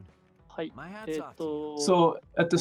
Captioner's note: speaking japanese